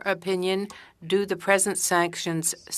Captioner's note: speaking French